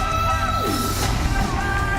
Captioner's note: imitates whooshing